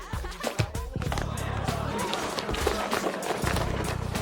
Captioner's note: students gasp